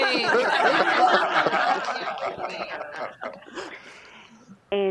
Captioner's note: laughter